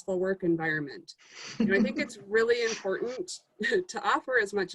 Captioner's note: laugh